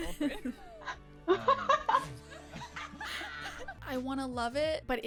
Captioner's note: friends laughing; laughs